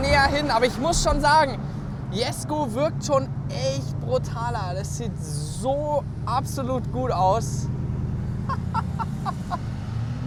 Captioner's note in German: gelächter